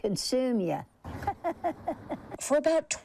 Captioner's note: laughing